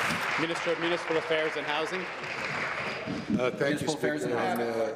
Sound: applause

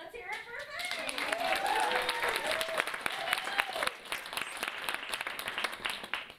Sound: audience applauding and cheering

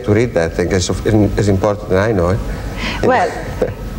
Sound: laughs

